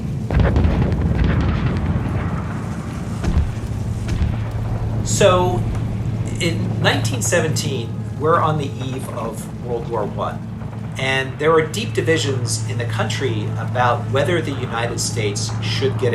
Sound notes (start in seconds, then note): 0.3 soundbite of gunfire